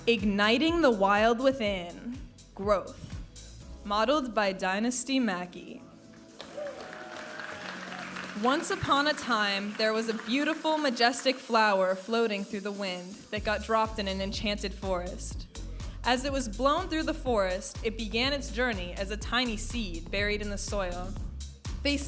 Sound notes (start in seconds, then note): 6.3 audience applauding and cheering